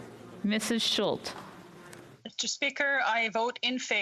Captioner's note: speaking French